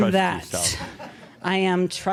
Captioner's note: chuckles